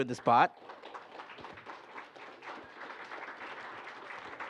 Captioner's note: applause